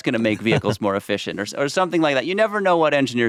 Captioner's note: laughs